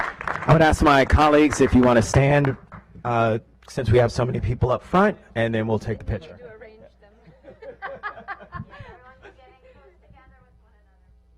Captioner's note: clapping